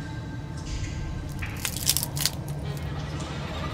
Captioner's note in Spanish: Palo se quiebra